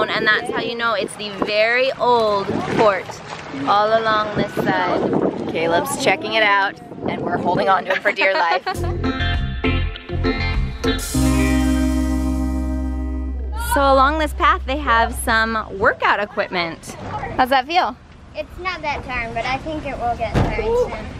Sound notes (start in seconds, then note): 7.9 laughing; 8.7 bright music